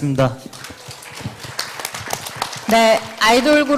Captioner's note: claps